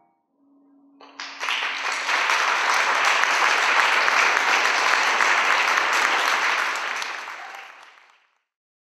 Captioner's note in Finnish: Yleisö taputtaa